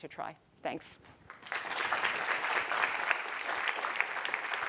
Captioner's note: applause